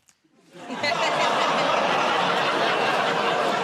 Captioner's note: laughter